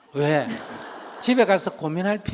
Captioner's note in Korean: 청중웃음